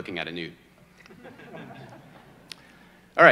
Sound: audience chuckles

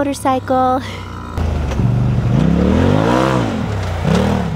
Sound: engine revving

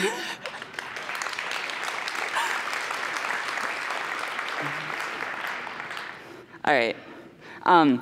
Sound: applause

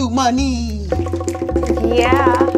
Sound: bongo music; all snapping

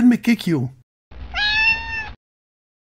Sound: meow

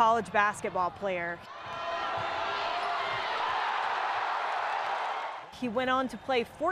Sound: crowd cheering

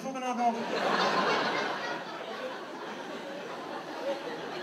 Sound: audience laughs

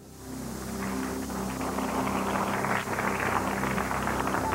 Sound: attendees applauding

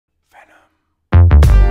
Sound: whispered

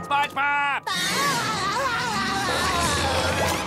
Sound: laughing

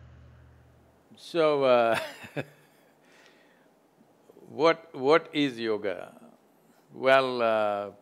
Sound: laughs

